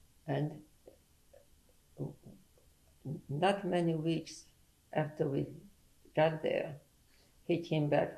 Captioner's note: pauses for 3 seconds